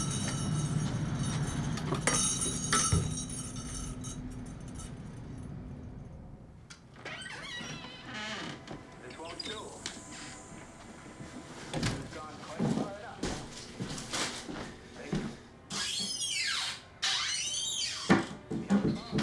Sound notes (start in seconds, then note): 0.0 bell ringing; 6.8 door creaking; 16.1 cabinet creaking